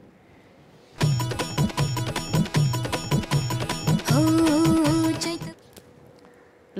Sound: phone ringing

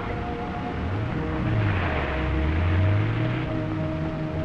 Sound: car rumbling

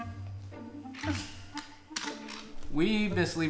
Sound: toys hitting floor

